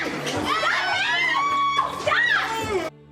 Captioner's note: screaming